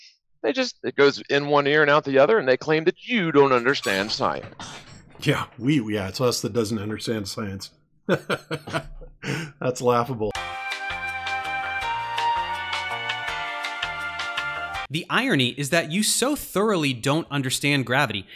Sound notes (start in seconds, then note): 8.1 chuckles